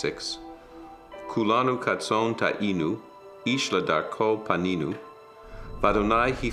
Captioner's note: speaks in foreign language